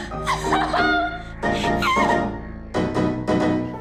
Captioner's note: sobs